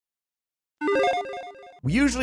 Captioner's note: logo beeps